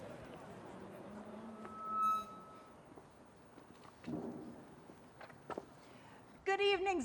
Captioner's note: microphone feedback screeches